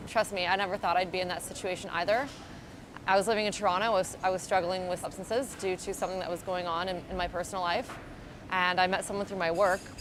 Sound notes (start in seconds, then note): none